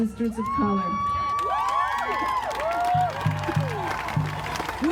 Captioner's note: crowd cheering and applauding